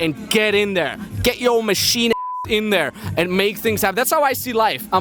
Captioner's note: beep